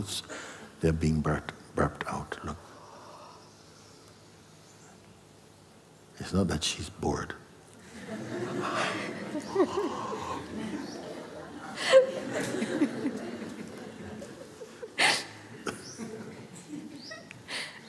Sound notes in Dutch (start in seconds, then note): 9.7 doet alsof hij gaapt; 12.6 gelach